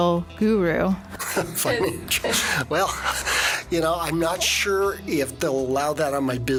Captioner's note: laughing